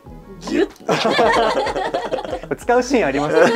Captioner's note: laughs